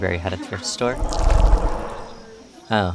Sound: Azazel Growls

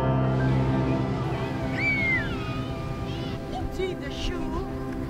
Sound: girl shouts joyously

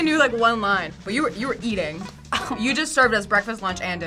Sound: laughs

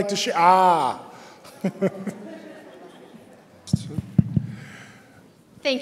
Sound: laughter

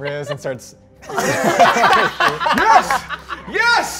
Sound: all laughing

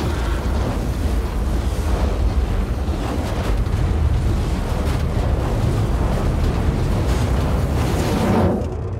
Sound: flames hissing

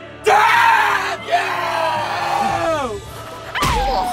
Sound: angry Satumi noises

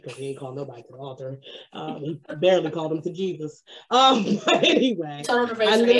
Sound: laughs

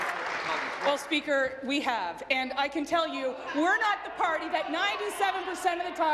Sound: applause

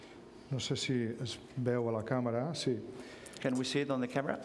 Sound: speaking catalan

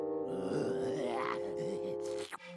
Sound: growling

